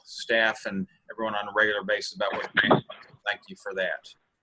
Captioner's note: speaks faintly